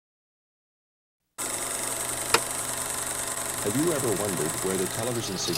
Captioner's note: projector clicking